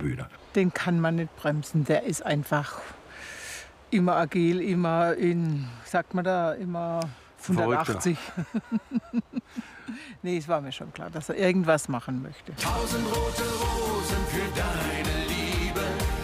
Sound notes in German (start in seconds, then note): 7.6 Lachen